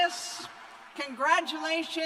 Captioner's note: cheers and applause